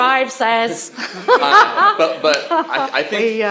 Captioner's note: laughter